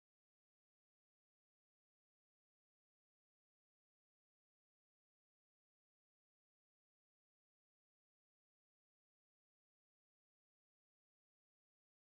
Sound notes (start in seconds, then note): none